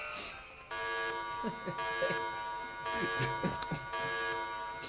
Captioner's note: alarm ringing